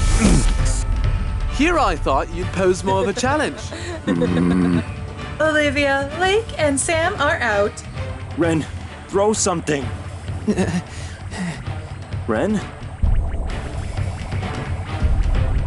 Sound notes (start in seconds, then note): 4.0 grumbles; 10.6 stammers